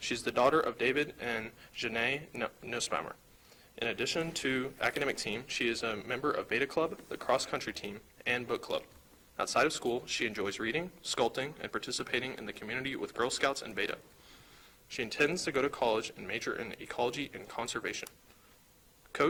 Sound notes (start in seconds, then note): none